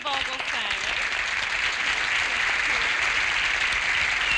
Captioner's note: applause